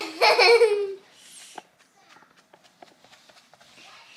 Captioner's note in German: lacht